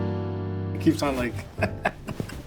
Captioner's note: playful jazzy music; laughs